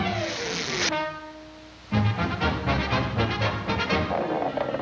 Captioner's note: zipper zipping